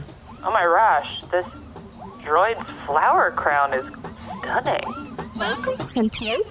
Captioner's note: with a vaguely Eastern European accent